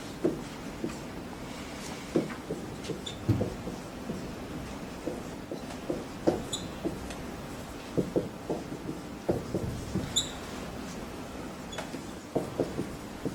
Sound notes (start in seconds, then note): 0.6 marker squeaks